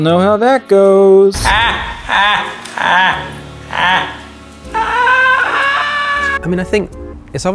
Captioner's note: The Joker from Suicide Squad laughing very slowly